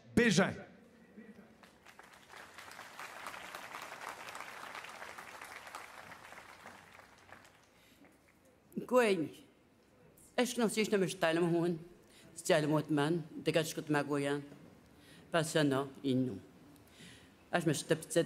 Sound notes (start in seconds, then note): 5.2 cheers and Applause; 13.4 speaking Indigenous Language